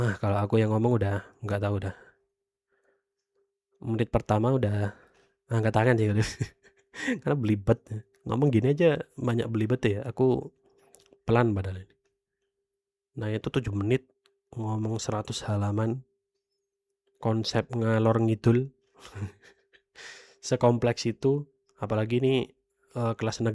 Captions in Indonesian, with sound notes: Ah kalau aku yang ngomong udah enggak tahu dah. Menit pertama udah angkat tangan sih [tertawa] karena beli betet ngomong gini aja banyak belibet ya. Aku pelan padahal ini. Nah itu 7 menit ngomong 100 halaman konsep ngalor ngidul. [tertawa] sekompleks itu apalagi ini ee kelas